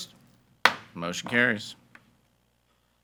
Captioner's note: gavel bangs